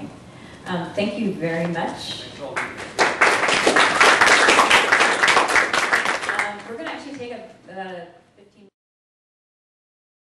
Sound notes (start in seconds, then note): 2.5 applause